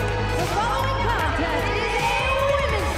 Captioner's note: bell